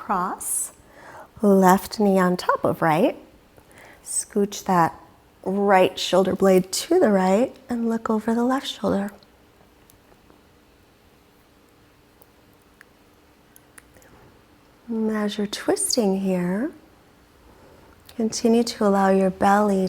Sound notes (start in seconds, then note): 3.7 deeply inhaling